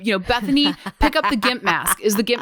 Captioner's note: laughs